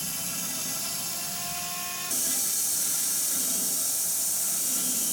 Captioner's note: saw buzzing